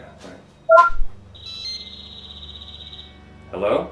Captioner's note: laptop beeps